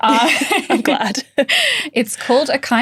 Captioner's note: laughing